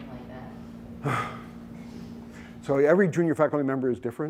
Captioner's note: deep sigh